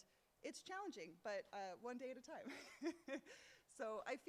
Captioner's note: laughs